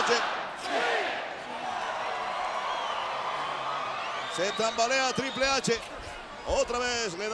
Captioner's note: applause